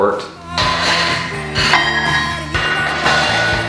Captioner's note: metal clanking